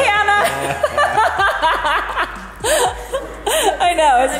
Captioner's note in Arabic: أمي تضحك